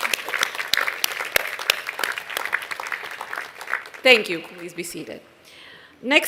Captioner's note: applause